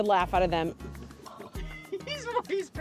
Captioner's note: light laughter